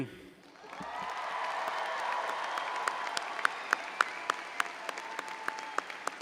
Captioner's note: audience cheering and applauding